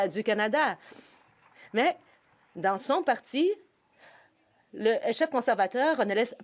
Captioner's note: some Applause